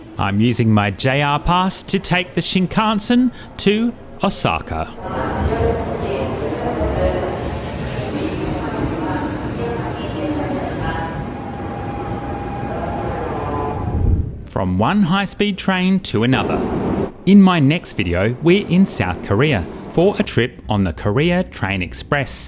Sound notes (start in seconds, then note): 4.8 train sounds